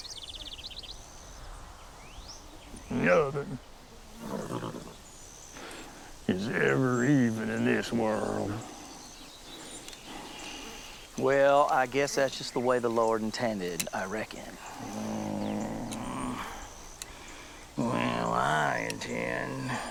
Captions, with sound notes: Nothing, (horse snorts) is ever even in this world. - Well, I guess that's just the way the Lord intended, I reckon. - Well, I intend to even things out to a fair degree.